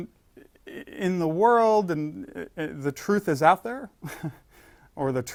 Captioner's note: laugh